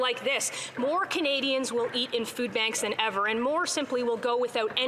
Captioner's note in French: voix de l'interprète